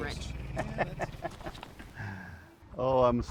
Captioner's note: man laughing; unsettling music